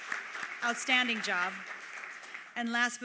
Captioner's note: applause